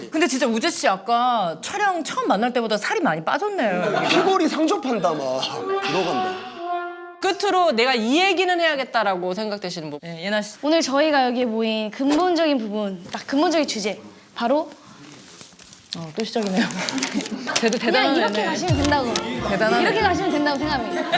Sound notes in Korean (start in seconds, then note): 14.2 부스럭 / 부스럭